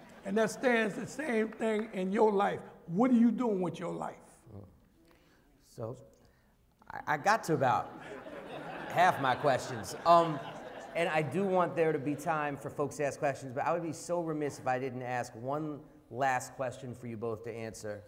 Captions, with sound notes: and that stands the same thing in your life. What are you doing with your life? >> So I got to about [laughter] half my questions and I do want there to be time for folks to ask questions, but I would be so remiss if I didn't ask one last question for you both to answer.